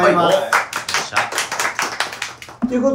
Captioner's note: claps